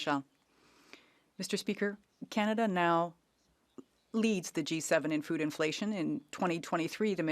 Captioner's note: speaking French